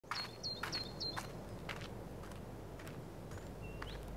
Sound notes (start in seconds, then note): 0.1 birds chirping